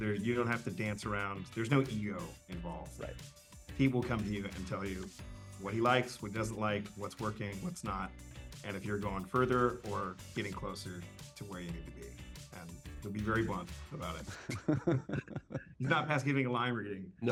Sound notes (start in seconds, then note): 14.2 chuckles